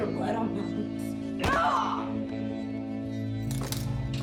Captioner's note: moans; metal clasping